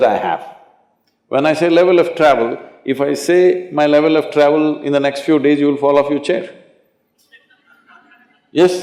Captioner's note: laughter